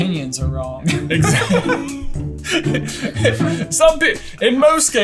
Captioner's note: laughing